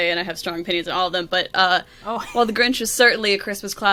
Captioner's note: laughs